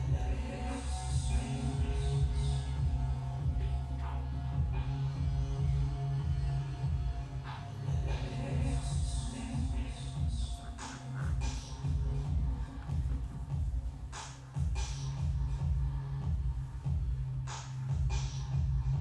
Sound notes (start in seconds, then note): 0.3 person speaking softly in foreign language; 8.0 person speaking softly in foreign language; 14.5 gentle, rhythmic music continues